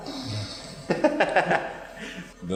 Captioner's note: laughing